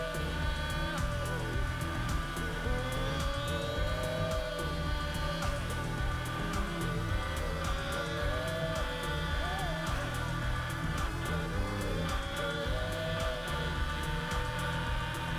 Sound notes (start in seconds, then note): 5.4 grunting